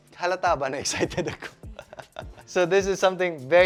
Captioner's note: laughs